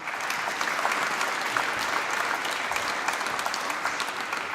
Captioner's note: applause